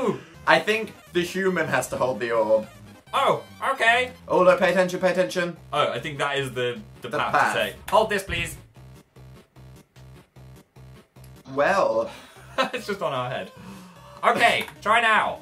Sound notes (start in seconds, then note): 12.1 laughs